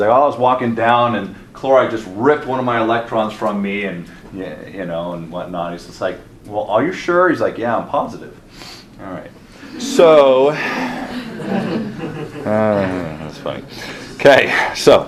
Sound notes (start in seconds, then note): 9.6 class chuckles